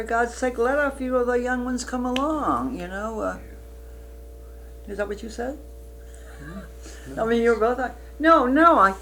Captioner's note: laughs